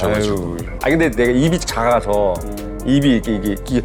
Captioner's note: struggling